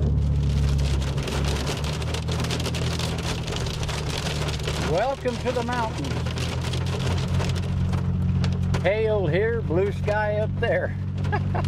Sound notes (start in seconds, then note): 0.2 engine rumbling; 3.8 rain pattering